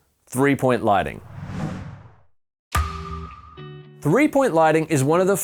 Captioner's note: pattern whooshing